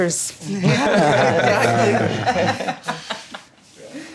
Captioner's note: laughing